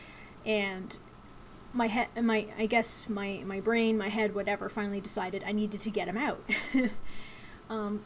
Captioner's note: chuckles